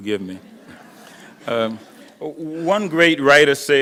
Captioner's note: audience laughing